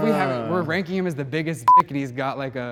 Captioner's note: beep